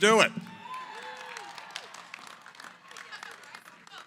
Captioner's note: cheering, applause